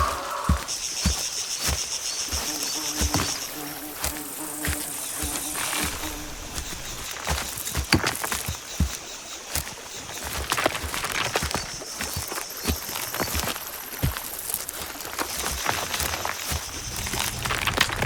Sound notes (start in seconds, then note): 9.6 water splashing; 13.6 branches cracking continues